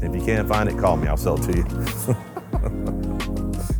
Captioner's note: laughs; pleasant music